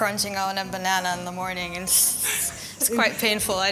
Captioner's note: laughs